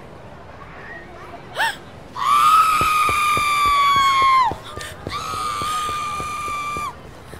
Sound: gasp followed by shrieking terror

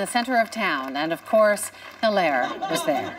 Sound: cheers and applause

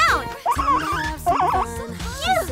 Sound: squeaking

